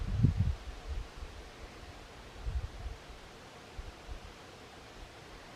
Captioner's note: wind blowing